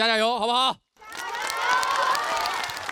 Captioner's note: cheers